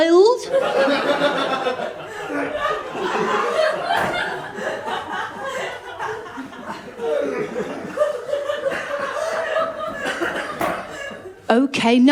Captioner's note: laughter